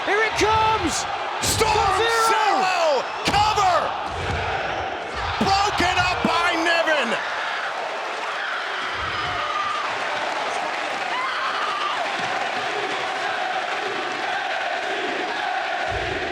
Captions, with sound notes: Here it comes, Storm Zero! Storm Zero! Cover! One, two! Broken up by Niven! (crowd roars) (Toni screams) NXT, NXT, NXT, NXT, NXT, NXT!